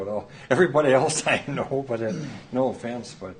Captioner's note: laughs